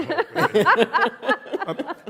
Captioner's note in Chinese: 笑聲